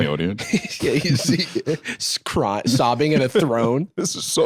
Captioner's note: laughs